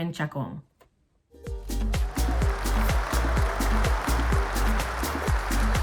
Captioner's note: cheers, applause